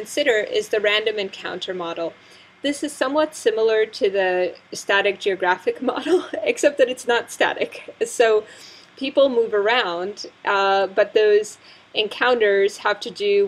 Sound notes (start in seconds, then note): 7.6 laugh